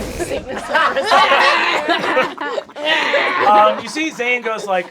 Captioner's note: cast laughing; retching